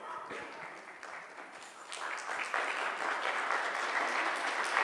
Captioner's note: audience clapping